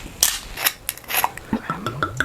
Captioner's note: cork pops; wine pours